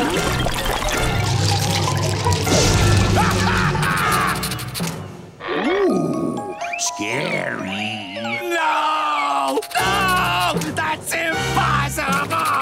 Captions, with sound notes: [laughing] Ooh. Scary. No! No! That's impossible!